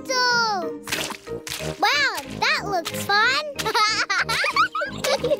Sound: laughs

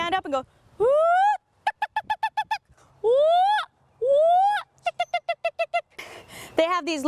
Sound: imitates a loud whooping and clucking Attwater's prairie chicken call

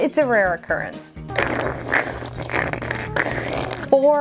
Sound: slurping Sounds

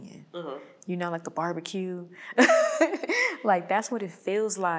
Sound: laughing

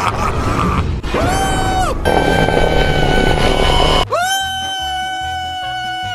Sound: screams

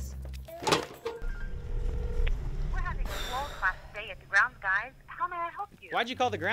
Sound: deep sigh by female as she picks up the phone to call The Grounds Guys

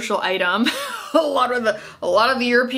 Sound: scoffs

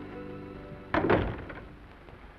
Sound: door closes

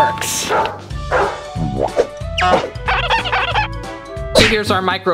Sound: squeaking sound effect; dog barking sound effect

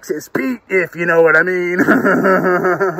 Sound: laughing

